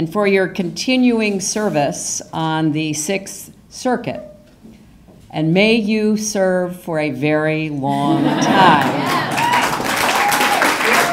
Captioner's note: applause